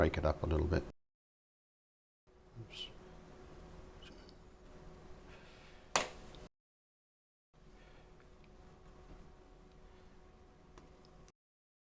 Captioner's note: silence